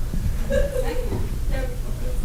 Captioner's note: laughs